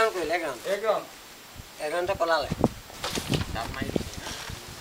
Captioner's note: speaking in foreign language